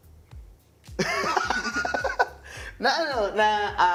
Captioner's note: laughs